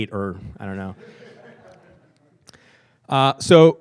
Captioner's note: laughing